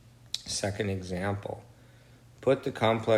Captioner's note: smacks lips